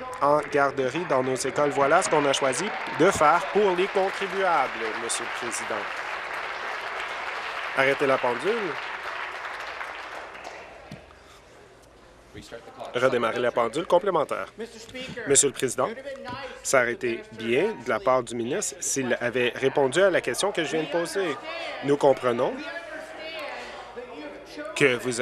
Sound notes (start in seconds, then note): 5.0 applause